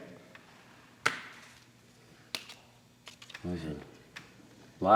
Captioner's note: light clattering